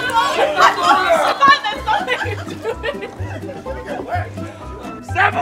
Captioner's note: laughter, cross talk